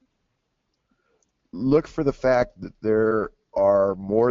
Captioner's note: voiceover